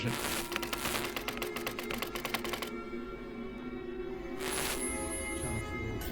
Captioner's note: static crackling; keys clicking; static crackling